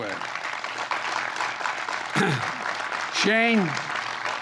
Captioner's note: applause